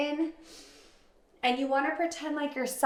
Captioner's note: inhales deeply